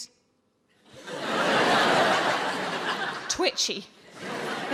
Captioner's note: audience laughs